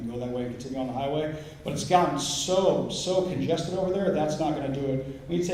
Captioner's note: none